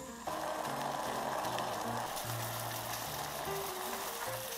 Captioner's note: boiling sound